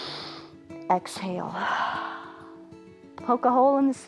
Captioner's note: exhales; inhales